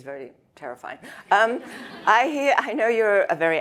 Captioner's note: audience laughs